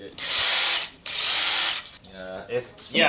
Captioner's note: drill whirring